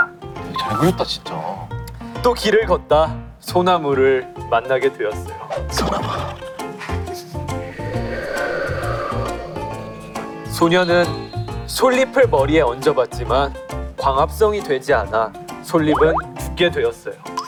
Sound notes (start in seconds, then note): 7.5 A sound effect of wind